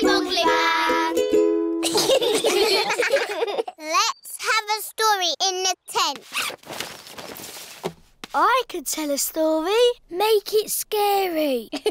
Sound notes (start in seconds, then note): 1.8 all giggling; 11.7 giggling